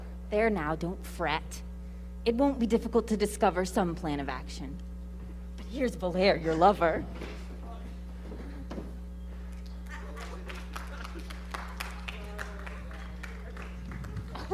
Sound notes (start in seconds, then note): 9.5 audience clapping